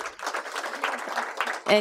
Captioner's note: applause